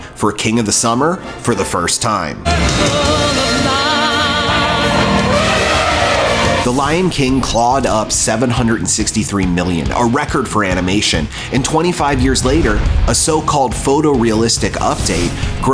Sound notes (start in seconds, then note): 3.3 singing; 4.8 trumpeting